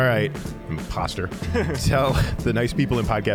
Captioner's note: both laughing